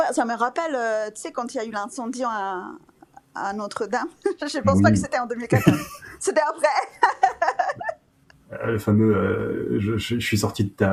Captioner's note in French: rires